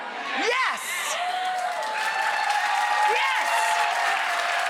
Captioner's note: audience cheers